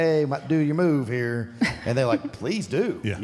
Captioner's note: Michelle chuckles